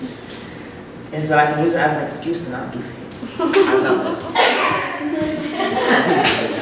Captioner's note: laughter